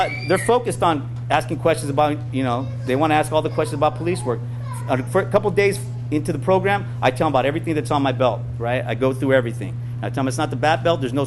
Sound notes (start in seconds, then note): none